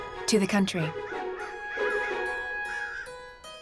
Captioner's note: ravens cawing